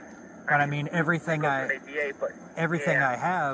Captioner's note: radio chatter